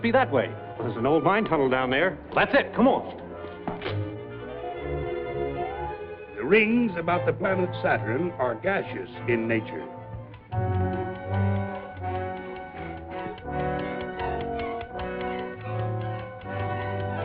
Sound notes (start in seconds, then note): 10.3 timer clicking; 13.5 dramatic music